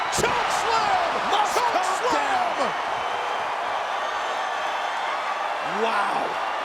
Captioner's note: applause